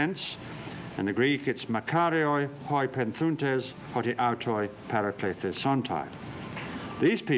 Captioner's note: non-english speech